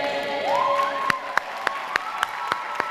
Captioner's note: applause